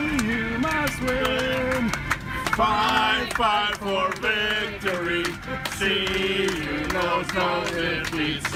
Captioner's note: clapping